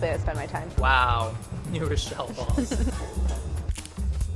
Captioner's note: laughing